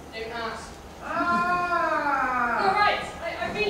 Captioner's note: another roar